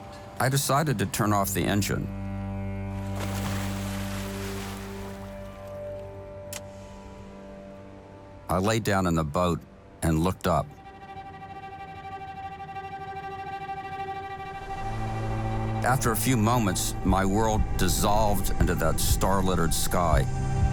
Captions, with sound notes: I decided to turn off the engine. (anchor splashes) (switch clicks) I lay down in the boat and looked up. (pensive music) After a few moments, my world dissolved into that star-littered sky.